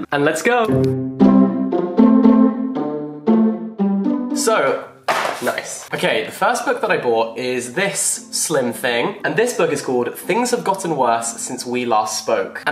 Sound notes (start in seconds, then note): 0.6 playful music; 5.0 book slamming on floor